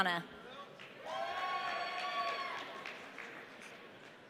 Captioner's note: audience cheering